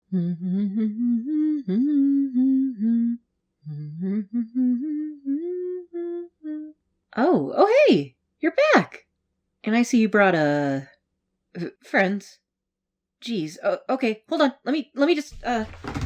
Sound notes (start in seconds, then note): 0.0 humming